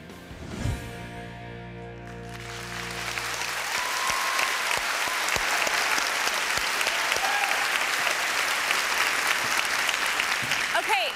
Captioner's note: applause